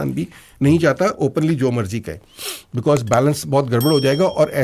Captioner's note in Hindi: नाक से की जाने वाली आवाज़